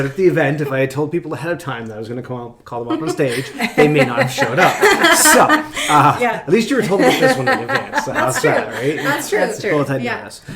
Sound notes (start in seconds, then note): 5.1 laughing; 7.1 voice is muffled